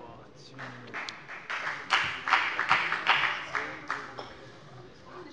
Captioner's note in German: Beifall bei der FDP